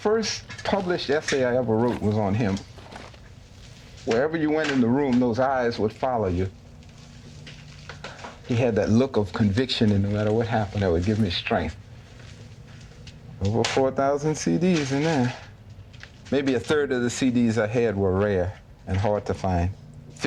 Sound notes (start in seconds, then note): none